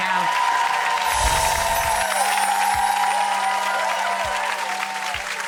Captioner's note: audience cheering and clapping